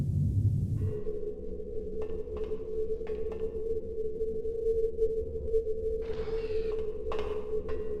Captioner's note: oooooooooo